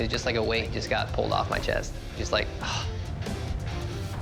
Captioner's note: sighing